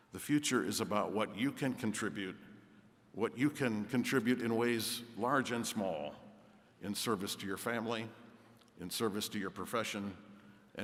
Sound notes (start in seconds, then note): none